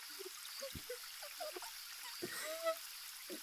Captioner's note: crying